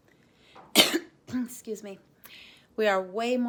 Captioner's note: coughs